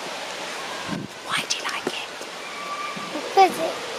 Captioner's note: whispers, off